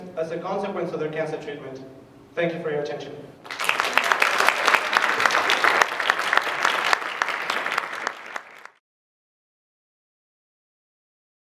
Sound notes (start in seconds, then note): 3.4 applause